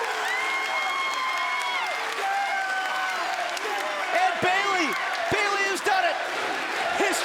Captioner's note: crowd cheering